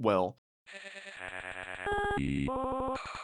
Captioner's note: electronic laughing